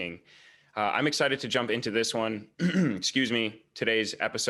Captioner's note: clears throat